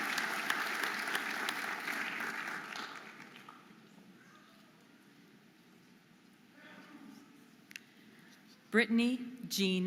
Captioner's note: audience applauding and cheering